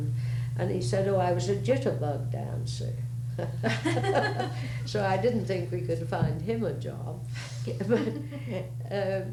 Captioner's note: laughter; laughter